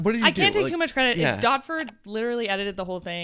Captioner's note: computer mouse clicking